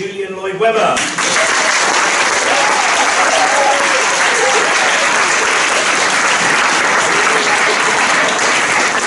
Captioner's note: applause